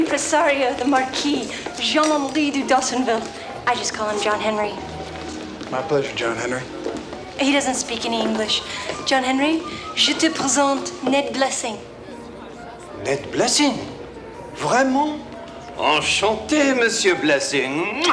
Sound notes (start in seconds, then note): 9.9 speaks French; 14.5 John speaks French